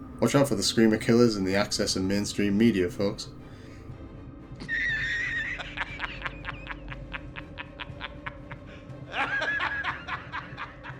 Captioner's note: laughing